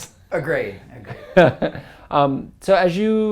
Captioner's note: laugh